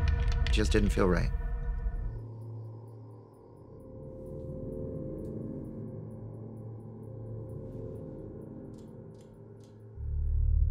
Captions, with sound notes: didn't feel right. [crickets chirping] [scary music] [clicking sound]